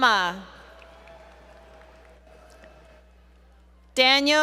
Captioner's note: applause